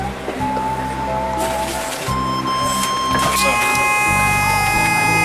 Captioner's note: bus beeping